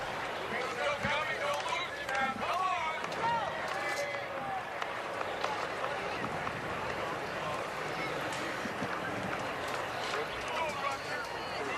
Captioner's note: shouting